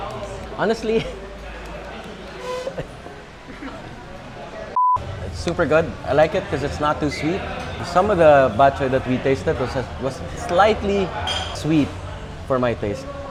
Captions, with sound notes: Honestly... (giggles) It's super good. I like it 'cause it's not too sweet. Some of the Batchoy that we tasted was slightly sweet for my taste.